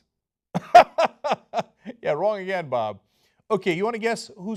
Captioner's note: laughter